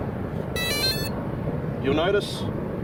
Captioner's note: drone beeping